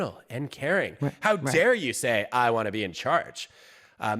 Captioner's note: sarcastically